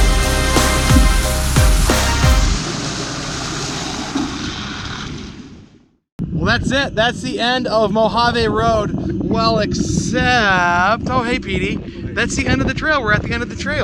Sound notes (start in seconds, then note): 1.7 water splashing